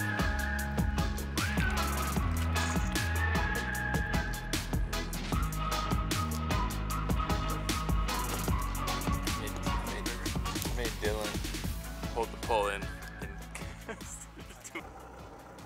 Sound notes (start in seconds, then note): 13.3 laughs